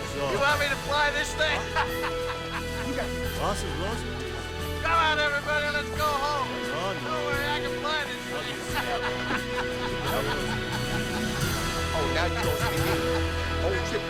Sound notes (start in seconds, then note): 2.7 laughs; 3.3 overlapping chattering; 9.8 laughs; 10.4 overlapping chattering